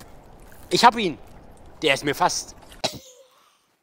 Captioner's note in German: lacht